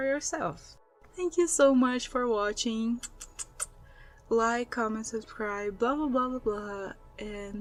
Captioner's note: kiss noises